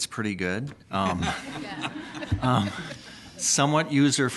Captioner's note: laughter